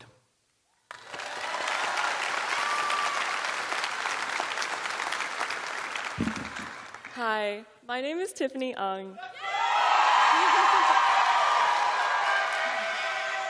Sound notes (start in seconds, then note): 0.0 cheers and applause; 0.9 cheering